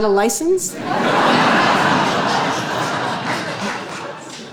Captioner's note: audience laughing